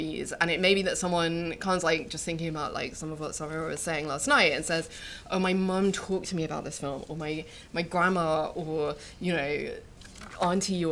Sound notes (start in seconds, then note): none